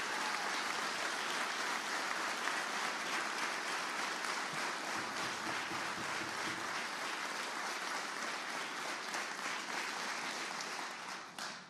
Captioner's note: applause